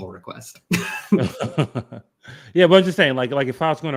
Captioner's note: laughs